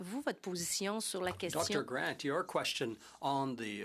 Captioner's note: speaking French